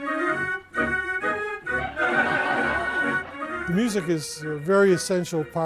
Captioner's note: cheery music; audience laughs